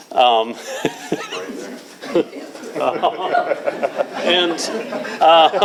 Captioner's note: laughing